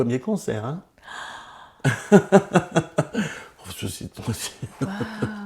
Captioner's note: laughs